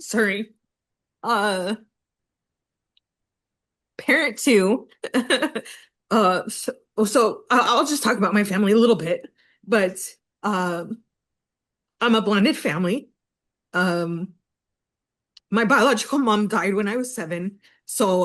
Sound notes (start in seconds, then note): 5.6 laughs